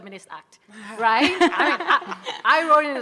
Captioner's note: audience laughing